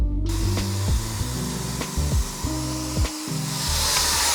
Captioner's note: machine whirling